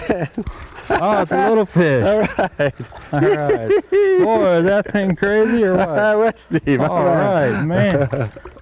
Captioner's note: laughter